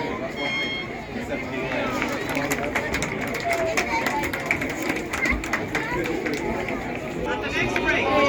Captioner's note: scattered applause